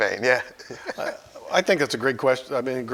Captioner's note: both laugh